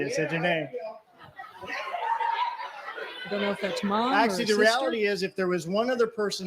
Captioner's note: laughter